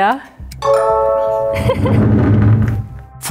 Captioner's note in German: Klingeln, Kichern